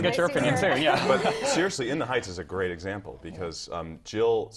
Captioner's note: laugh